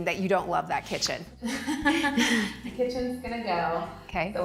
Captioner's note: laughing